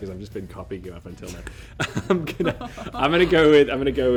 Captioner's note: both laugh